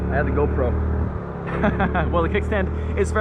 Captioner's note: laughing